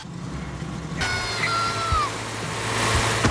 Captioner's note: engine starts; owen screams